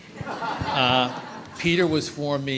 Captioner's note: audience laughs